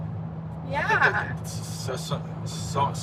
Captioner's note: stammers